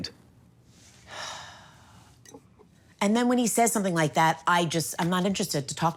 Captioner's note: sighs